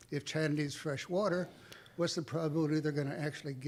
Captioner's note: none